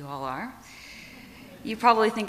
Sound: audience laughs

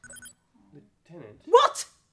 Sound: communicator continues to chirp

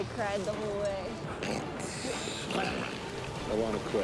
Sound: grunting

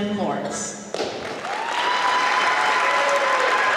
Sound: applause

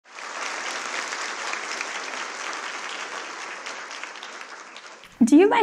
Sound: applause

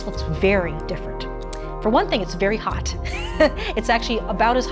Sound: chuckles

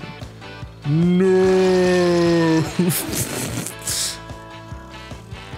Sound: laughing

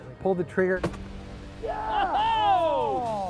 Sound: gunshot

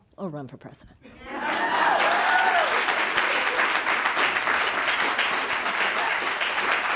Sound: audience cheering and applauding

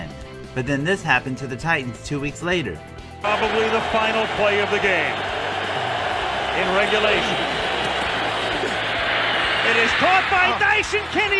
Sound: crowd applause

